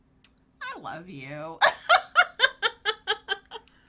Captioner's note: laughs